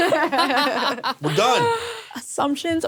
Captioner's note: people laughing